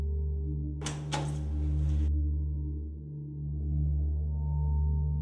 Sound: door handle clicking

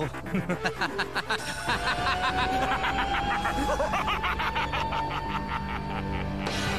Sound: wicked laughter

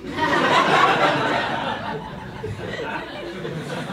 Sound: audience laughs

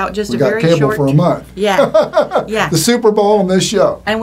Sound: laughing

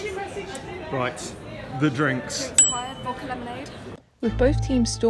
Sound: ding

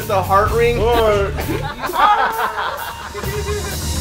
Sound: laughter

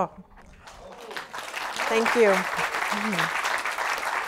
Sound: applause

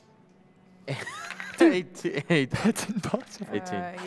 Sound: laughs

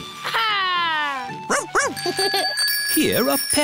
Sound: giggles

